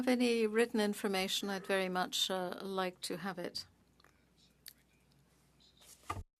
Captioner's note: speaking French